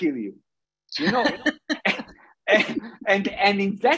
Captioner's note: both laughing